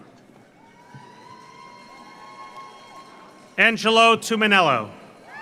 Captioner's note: audience cheers; audience applauds